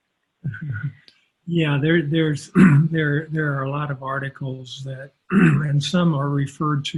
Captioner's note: clears throat